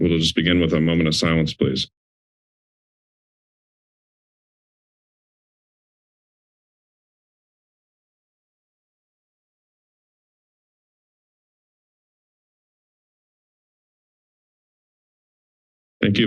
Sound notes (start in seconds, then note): 2.4 silence